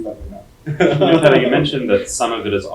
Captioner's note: laughing